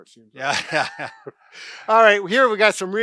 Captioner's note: chuckles